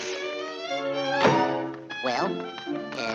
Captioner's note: door slams; hands slapping